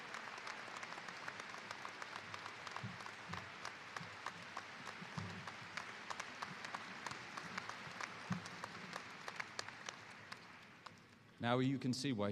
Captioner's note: applause